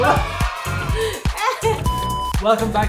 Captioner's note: laughing